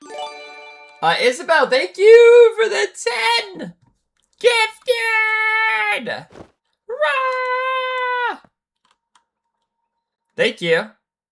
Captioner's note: screaming